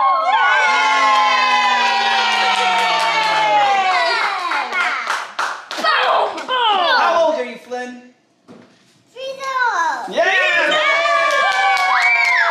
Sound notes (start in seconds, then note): 0.0 cheering; 3.3 applause; 10.2 cheering